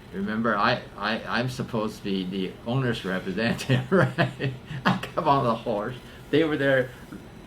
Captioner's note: laughs